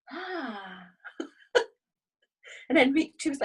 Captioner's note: laughs